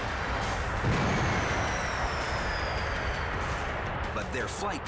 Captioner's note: engine malfunctions